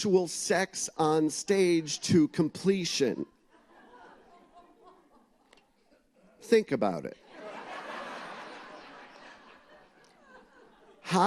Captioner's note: laughter